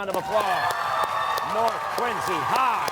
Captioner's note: cheers and applause